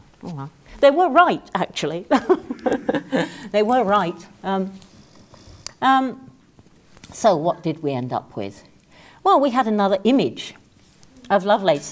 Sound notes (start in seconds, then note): 2.2 laugh